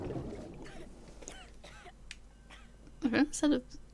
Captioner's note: splash; Monroe coughing